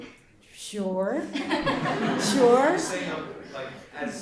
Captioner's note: audience laughs